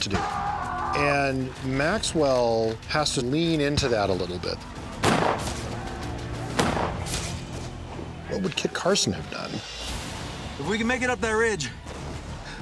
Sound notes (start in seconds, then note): 5.0 gunshots